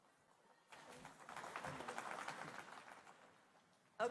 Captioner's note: applause